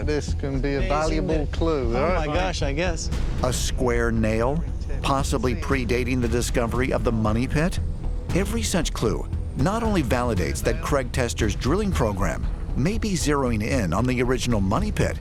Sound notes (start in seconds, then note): none